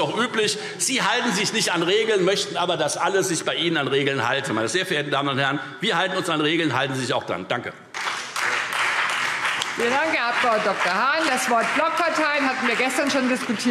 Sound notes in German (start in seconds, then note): 7.9 Beifall Freie Demokraten, vereinzelt CDU und BÜNDNIS 90/DIE GRÜNEN